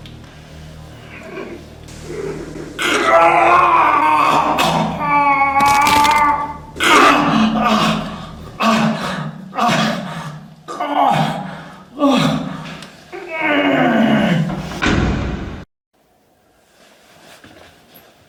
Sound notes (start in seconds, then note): 4.4 cracking; 4.6 screams; 10.2 breathing loud